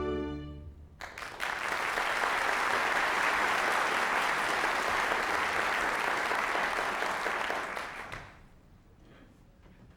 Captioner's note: applause